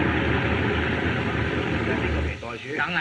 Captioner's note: men Speaking Chinese